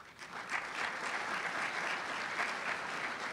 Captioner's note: applause